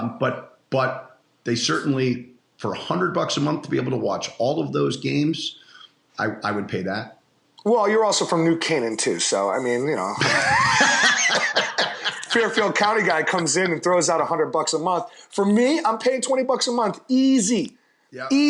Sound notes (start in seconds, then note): 10.2 laughter